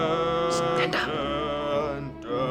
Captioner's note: whispers